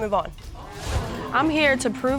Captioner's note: audience gasps